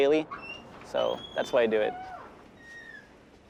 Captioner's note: door creaking